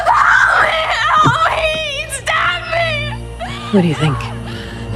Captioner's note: Amber screaming